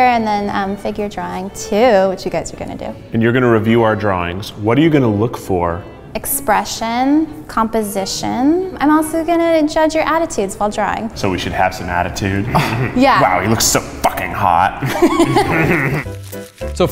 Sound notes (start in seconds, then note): 12.4 scoffs; 14.8 laughs